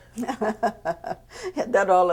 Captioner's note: laughs